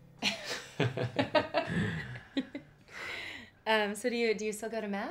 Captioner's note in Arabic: يضحك